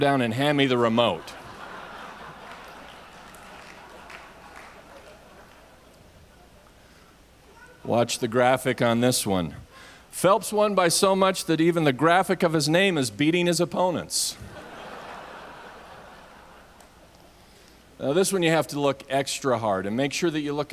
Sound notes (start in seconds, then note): 2.8 audience laughs